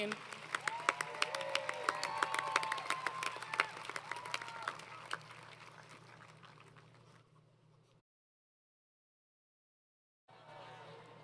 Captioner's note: applause